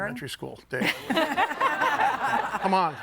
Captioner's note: group laughing